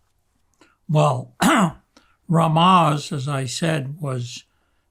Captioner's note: clears throat